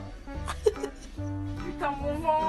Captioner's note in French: rire